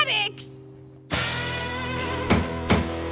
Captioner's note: tap of the hammer